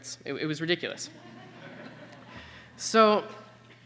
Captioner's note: laughter